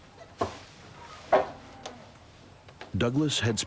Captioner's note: cows mooing